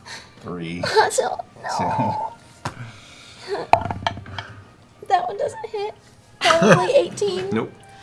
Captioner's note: sad noise